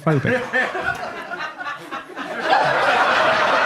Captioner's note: audience members chuckling; audience laughs